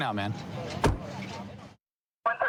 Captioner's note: car door closing